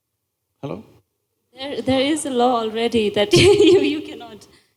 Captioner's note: laughs